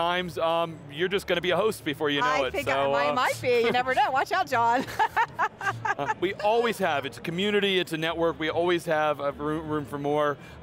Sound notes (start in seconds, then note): 4.7 laughing